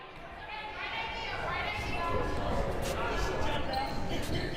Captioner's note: crowd murmuring